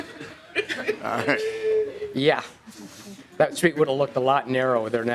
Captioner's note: laughing